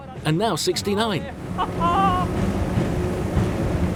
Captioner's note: laughing